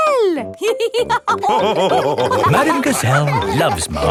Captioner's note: all laughing